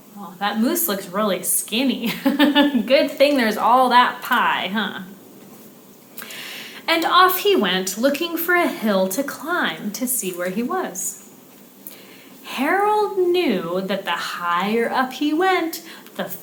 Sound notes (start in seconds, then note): 2.1 chuckles